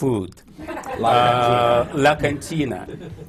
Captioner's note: laughter